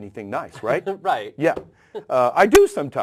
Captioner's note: laugh